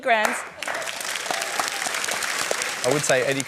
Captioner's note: applause